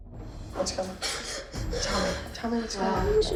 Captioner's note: crying